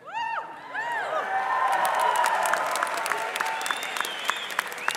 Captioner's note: crowd cheering and applause